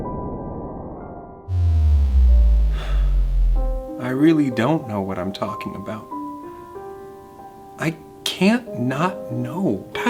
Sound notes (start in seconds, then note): 0.1 calm music; 1.5 scene buzzing; 2.5 sighs